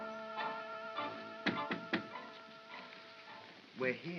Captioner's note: knocks on box